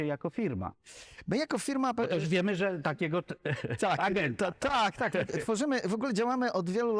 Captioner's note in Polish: śmiech